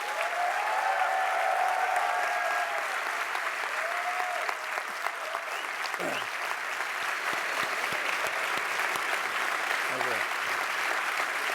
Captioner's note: applause